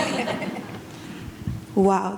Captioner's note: audience laughs